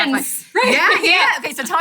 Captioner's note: laughs